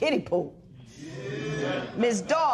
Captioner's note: spectators murmur